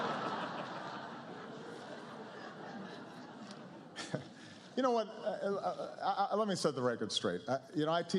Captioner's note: laughter